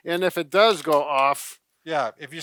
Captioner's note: blocks clattering